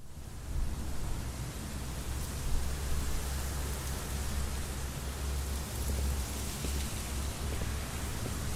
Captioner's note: ambient breeze & branches rustling